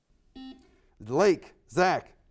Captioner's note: buzzer beeps